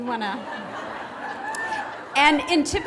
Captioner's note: graduates laughing